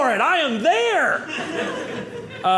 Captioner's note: audience laughing